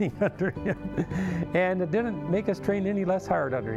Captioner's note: laughing